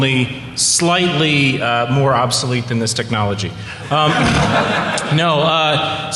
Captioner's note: laughter